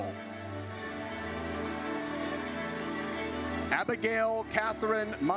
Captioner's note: audience cheers